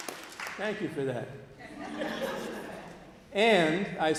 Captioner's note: laughter